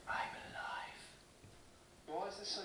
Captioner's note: whispering